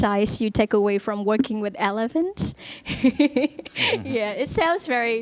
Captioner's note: laughs